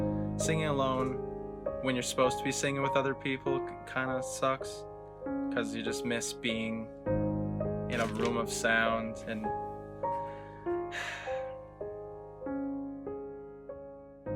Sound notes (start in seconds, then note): 10.9 sigh